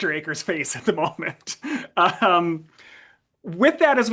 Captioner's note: laughs